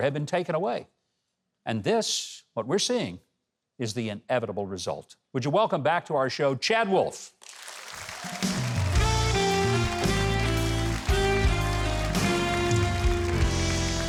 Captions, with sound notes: had been taken away. And this, what we're seeing is, the inevitable result. Would you welcome back to our show, Chad Wolf. (audience clapping) (upbeat music)